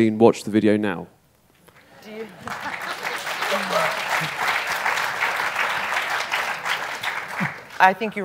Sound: applause

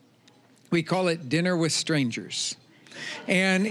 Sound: audience laughing

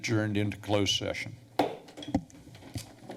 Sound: gavel tap

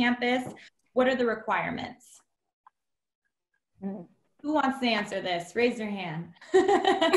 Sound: laughter

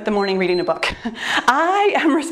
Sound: timer beeps

